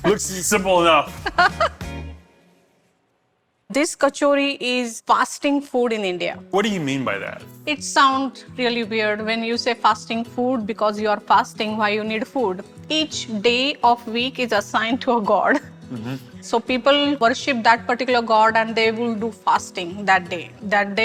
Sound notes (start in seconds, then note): 1.3 laughs